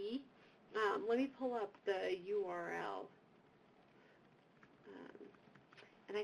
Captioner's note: typing